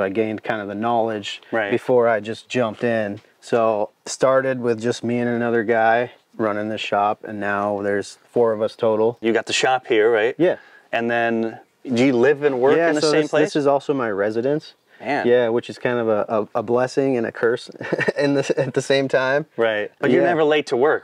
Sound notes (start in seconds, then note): 17.7 laughs